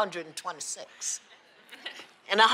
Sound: laughs

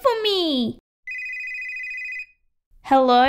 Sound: phone ringing

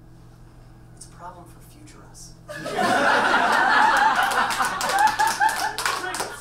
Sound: audience laughs and claps

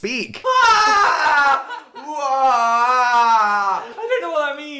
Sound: screams; laughing

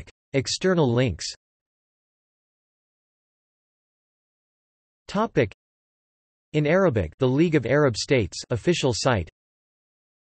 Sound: in Arabic

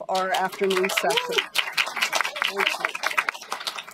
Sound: applause

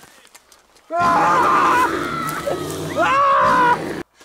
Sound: roaring

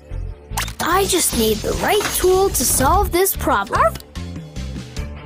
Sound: Marshall Barks

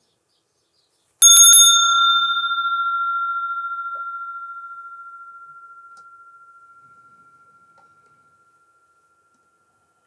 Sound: sound of the bell

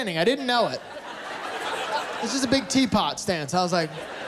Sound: laughter

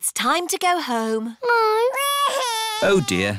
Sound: crying

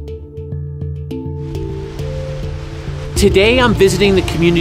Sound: waves crash

